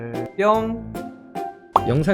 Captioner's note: poof